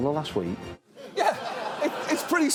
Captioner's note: audience laughs